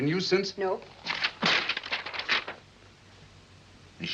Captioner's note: paper rustles